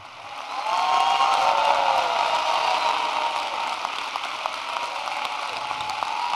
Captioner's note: çóAPPLAUSE